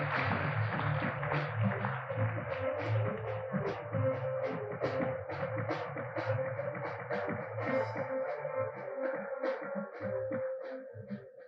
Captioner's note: applause; applause